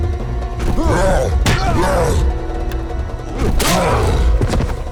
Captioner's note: guard grunts